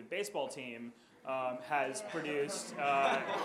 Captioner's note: audience laughs; audience chuckles